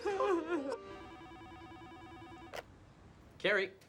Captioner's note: telephone ringing